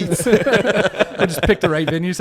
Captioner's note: all laugh